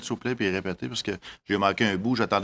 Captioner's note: speaking French